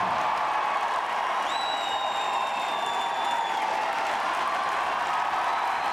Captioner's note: body thuds; audience cheering and clapping